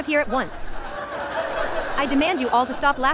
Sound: all laughing

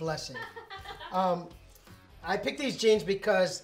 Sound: laughing

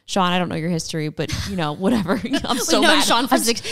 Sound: both laugh

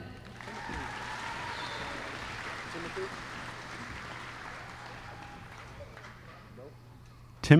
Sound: applause

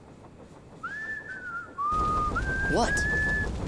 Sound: whistling

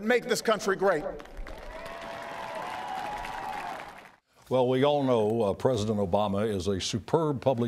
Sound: applause

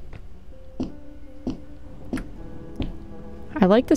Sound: thunder, faintly

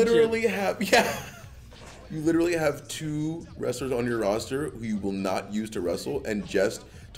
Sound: laugh

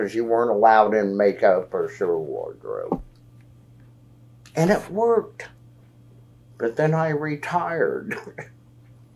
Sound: laughs

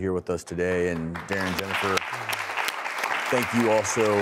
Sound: audience clapping

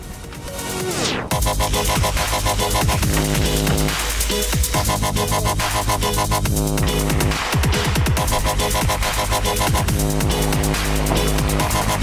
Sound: splashing and dubstep

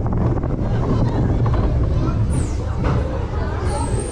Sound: whistling

